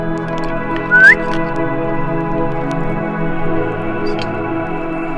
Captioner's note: crew member whistles